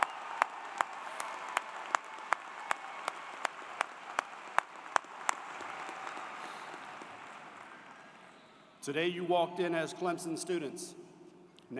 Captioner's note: cheers and Applause